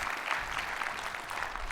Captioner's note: audience applauds